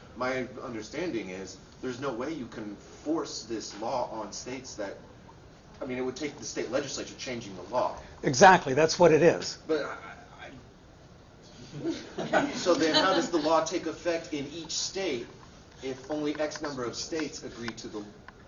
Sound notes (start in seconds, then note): 10.4 stammers; 11.6 other students laugh